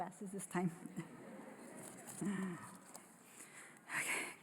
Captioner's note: laughter